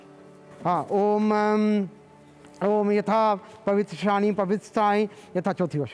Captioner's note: man 7 speaking foreign language